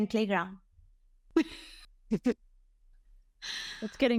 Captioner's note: laughs